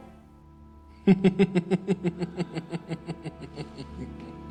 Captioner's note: laughing